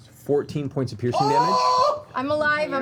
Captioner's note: yells